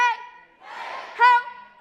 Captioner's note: crowd